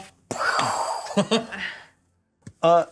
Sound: co-hosts laughing

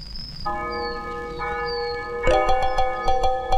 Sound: bell Tolling

